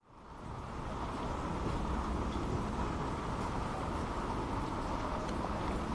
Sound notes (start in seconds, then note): 0.0 raining